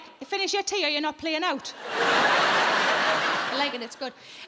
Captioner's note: audience laughing